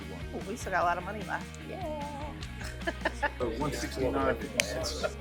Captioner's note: laughs